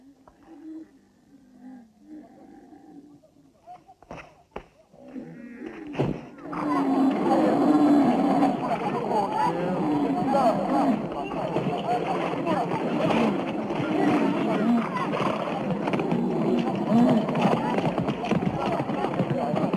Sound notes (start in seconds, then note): 0.0 camels grunting; 6.7 people chattering